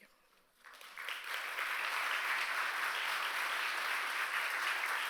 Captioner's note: applause